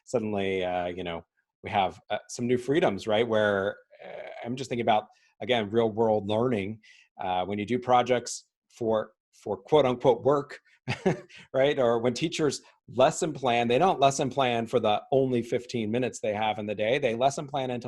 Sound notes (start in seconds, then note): 10.9 chuckling